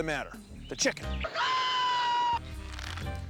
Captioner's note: crowing